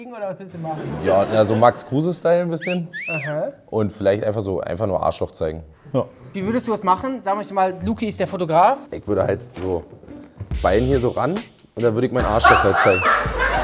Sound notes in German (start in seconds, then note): 2.5 Pfeifen